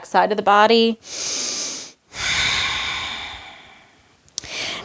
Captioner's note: breaths heavily